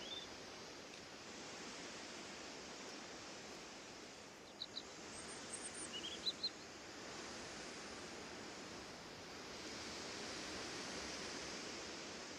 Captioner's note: birds singing